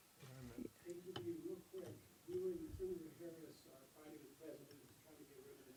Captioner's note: reporter speaks off camera